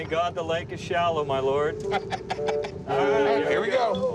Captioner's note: laughs